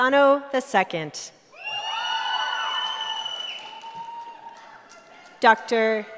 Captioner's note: cheering